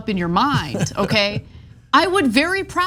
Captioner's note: laugh